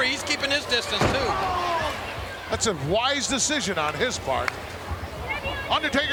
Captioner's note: applause